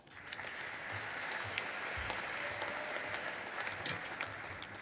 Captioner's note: audience applauding